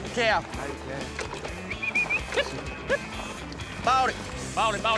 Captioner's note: whistling